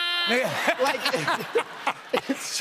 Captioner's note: laughter